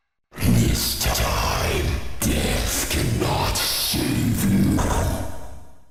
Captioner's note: deep, Glitching Voice